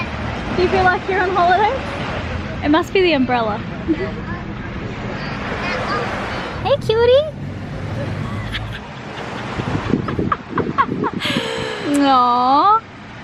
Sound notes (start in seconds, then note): 8.0 laughs